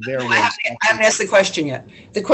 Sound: soft Voice

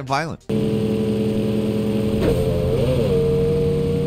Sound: engine whirs

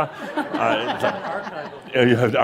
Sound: laughter

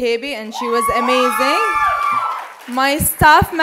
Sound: cheers

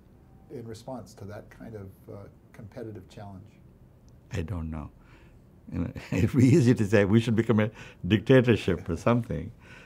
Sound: laughs

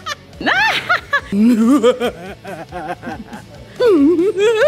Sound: evil laugh 1; evil laugh 2; evil laugh 3; evil laugh 4

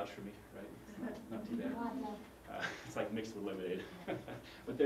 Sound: laugh

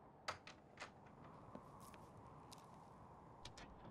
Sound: wind whistles

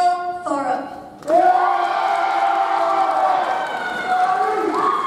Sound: audience cheers

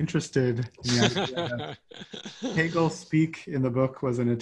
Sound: laughs

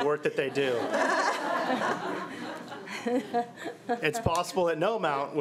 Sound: crowd giggling

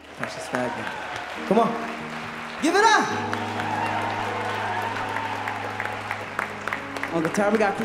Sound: applause

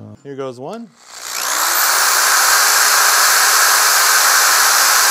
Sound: loud drilling

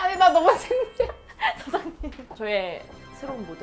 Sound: cries & laughs

